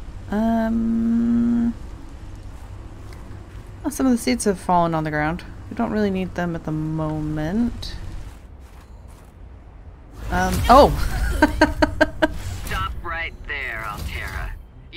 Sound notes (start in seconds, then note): 11.2 laughs